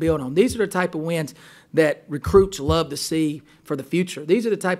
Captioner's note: voiceover